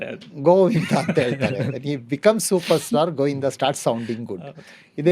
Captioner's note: laughs